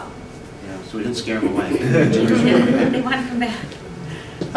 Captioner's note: laughter and chatter